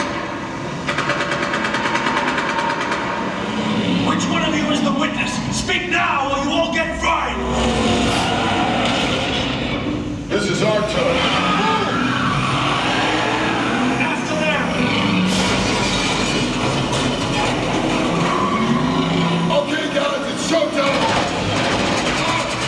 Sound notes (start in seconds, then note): 0.2 gunshots firing; 8.1 tires screeching; 14.3 characters yelling; 15.9 cars crashing; 17.6 engines roaring; 17.6 tires screeching; 22.4 gunshots firing; 22.4 tires screeching